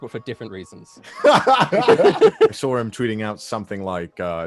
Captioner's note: laughing